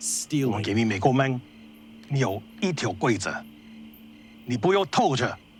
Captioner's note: translator speaking Chinese